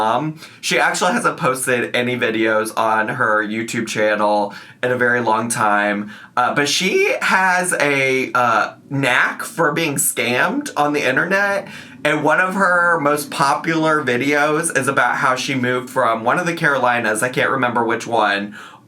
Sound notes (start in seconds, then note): none